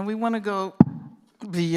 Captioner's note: thud